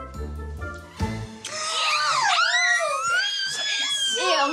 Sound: squeals

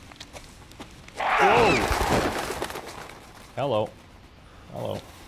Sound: loud bird screech

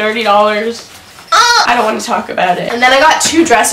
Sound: moans

